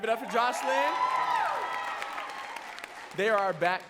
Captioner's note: audience cheering and clapping